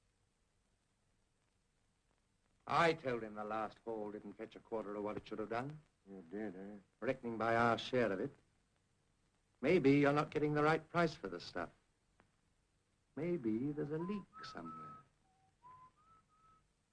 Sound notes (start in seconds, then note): 13.8 Harry whistles